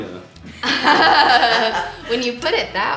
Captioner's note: laughing